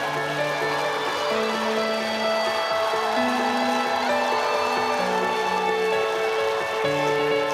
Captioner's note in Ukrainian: оплески